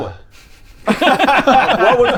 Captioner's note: technically correct laughter